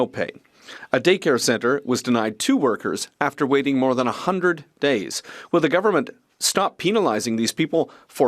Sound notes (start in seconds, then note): 1.1 speaking French